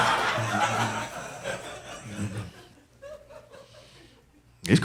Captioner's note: audience laughing